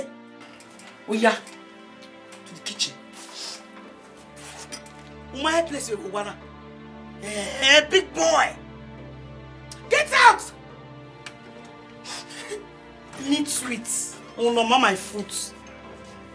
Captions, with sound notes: To the kitchen. You're not sure where you belong in this house. Eh ee... Big boy. Get out. (cursing)